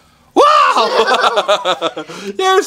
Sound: laughs

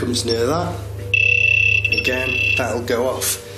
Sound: loud beeping

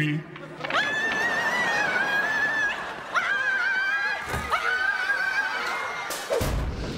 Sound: screaming

